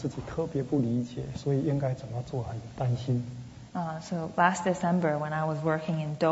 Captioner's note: speaking Mandarin